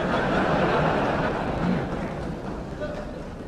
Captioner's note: laughter